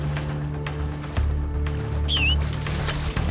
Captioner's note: man whistles